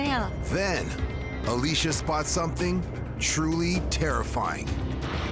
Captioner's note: none